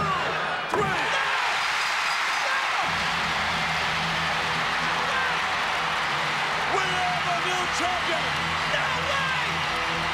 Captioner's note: applause